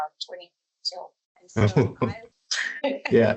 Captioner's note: laughs